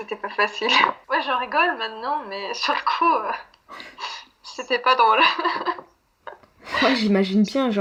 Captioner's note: laughs